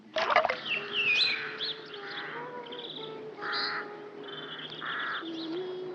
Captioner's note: birds resume chirping